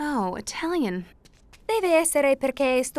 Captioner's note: speaking italian